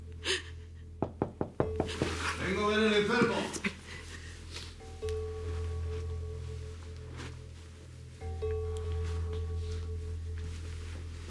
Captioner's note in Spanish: Toques en la puerta